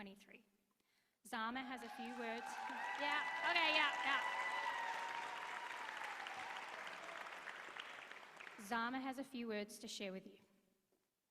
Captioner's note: applause